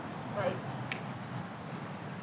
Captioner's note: snaps